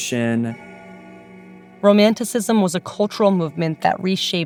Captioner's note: soundbite of bells chiming